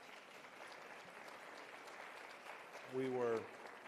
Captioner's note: applause